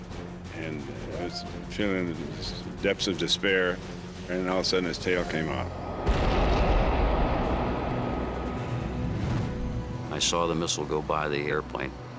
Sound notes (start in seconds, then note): 5.8 explosion